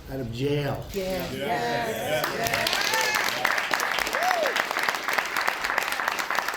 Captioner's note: applause